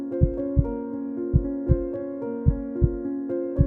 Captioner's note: heart Beating